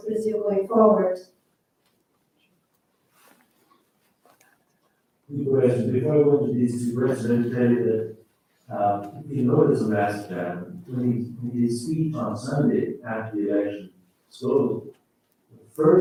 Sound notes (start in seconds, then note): 7.0 faintly speaking